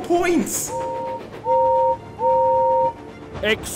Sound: gordon whistles

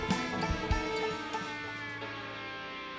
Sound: engines cut out

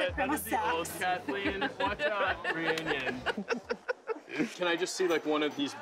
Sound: laughter

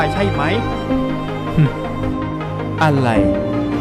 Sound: snicker

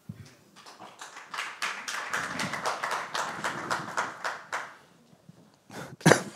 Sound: applause

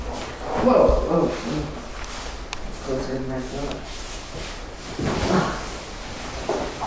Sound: sighs

